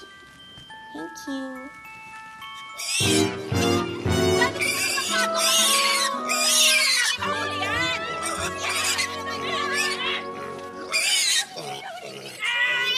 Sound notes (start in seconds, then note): 2.6 pig squealing; 4.0 clamoring; 8.6 exclaiming indistinctly; 12.4 clamoring